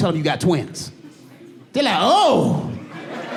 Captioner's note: audience laughing